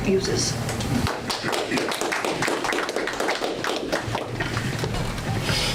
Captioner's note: audience applause